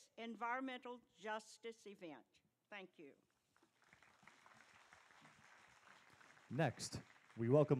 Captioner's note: applause